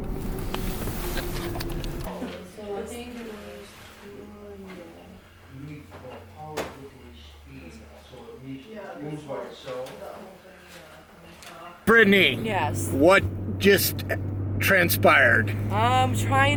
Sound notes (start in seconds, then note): 2.7 background chatter